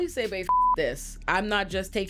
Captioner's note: beep